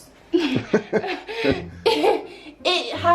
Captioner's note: laugh